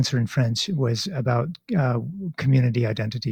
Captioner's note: speaking in French